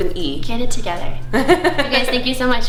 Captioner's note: laughing